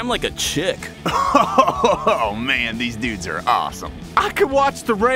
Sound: laughing

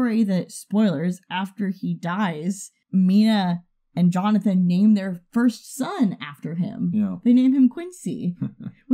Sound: chuckles

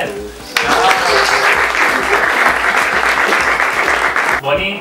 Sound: applause

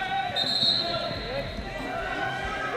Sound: whistle

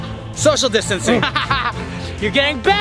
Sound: laughing

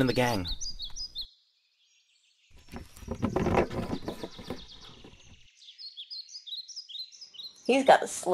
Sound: birds

